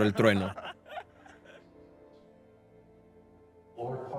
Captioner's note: laughing